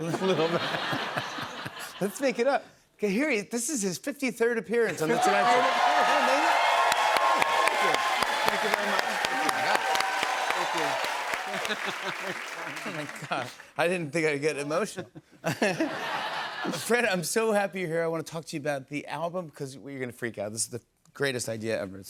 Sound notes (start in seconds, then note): 5.6 cheering